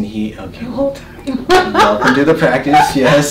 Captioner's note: laughing